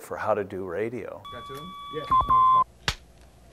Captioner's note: radio equipment bleeping